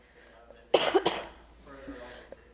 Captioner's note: coughing